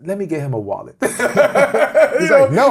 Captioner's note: laughs